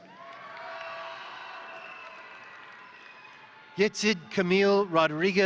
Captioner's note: crowd applauding; crowd cheering